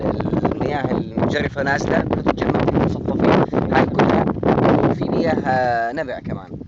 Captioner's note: wind interference